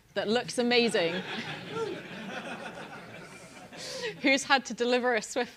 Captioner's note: laugh